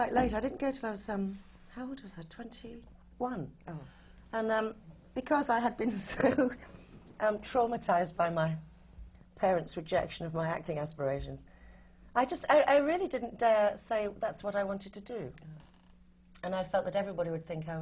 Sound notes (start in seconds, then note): 6.5 laughs